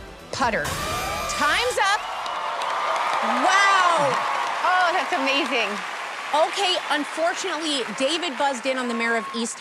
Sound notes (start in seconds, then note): 0.7 alarm blares